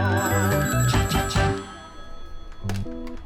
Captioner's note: phone ringing